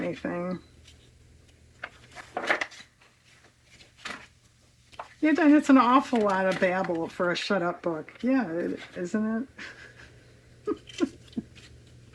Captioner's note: laughs